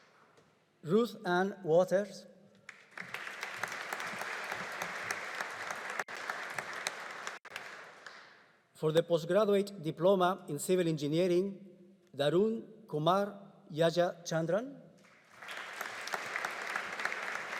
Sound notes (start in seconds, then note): 2.6 audience applauding; 15.1 audience applauding